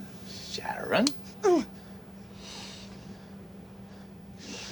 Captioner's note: hand slapping